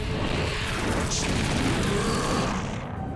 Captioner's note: roar